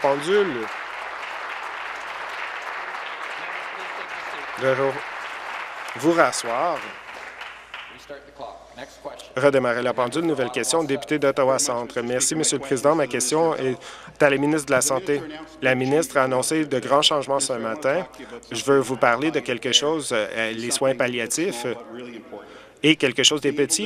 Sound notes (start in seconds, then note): 0.0 applause